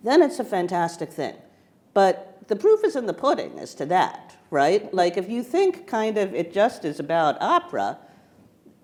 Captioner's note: none